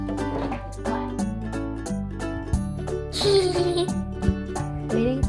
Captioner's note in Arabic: طفل يضحك